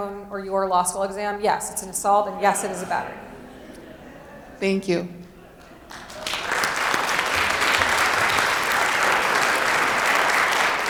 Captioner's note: applause